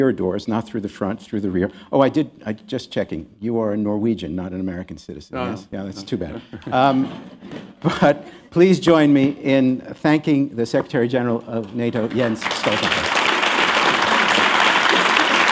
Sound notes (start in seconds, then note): 3.7 laughter; 10.0 applause